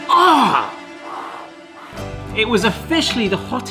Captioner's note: puffing